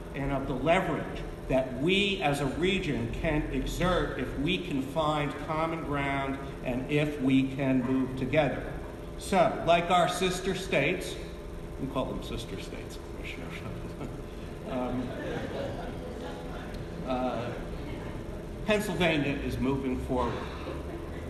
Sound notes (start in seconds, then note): 13.5 chuckles; 14.6 audience laughing